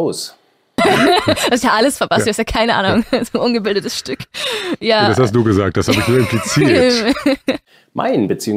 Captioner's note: laugh